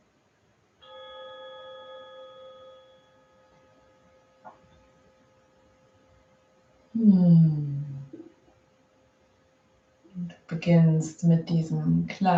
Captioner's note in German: Klang des Gongs